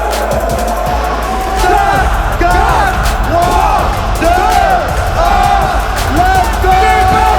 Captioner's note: screaming